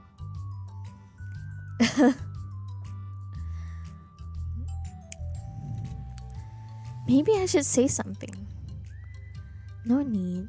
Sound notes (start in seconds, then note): 1.6 laughs